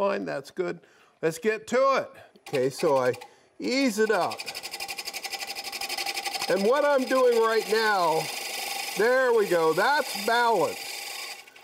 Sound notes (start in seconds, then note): 3.9 chisel scrapes